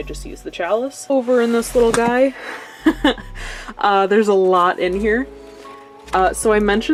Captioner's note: laughs